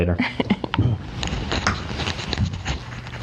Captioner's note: laughs